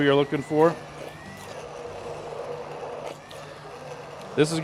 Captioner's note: blender whirring